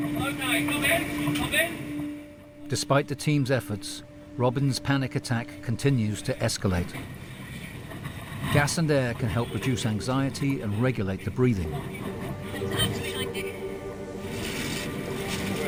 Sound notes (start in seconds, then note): 6.9 tank swishing; 14.2 medical gear brushing